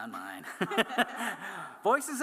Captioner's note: laughter